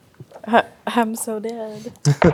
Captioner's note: chuckles